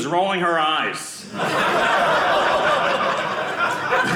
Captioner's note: audience laughing